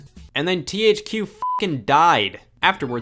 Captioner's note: beep